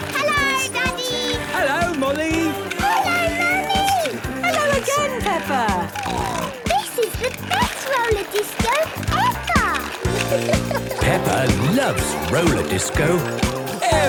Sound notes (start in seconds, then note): 6.1 snorting